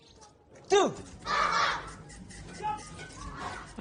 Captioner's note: group grunts